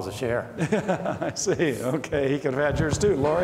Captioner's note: laughs